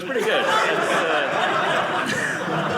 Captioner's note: audience laughing